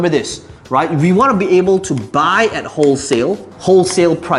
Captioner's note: tapping marker